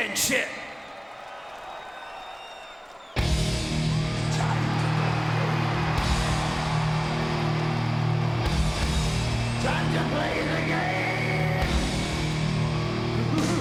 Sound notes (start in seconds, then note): 1.2 audience cheering and clapping; 3.4 upbeat music